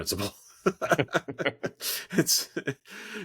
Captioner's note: laughs